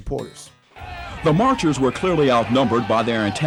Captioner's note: marchers chanting